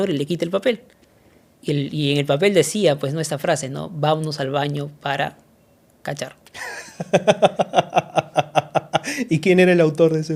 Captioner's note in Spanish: risas